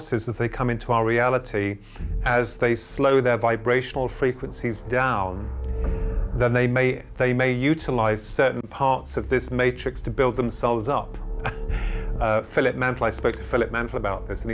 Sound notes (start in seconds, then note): 11.4 laughs